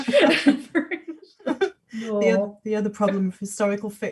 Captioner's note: laughing